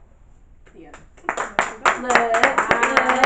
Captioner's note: audience clapping